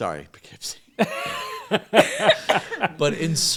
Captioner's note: all laughing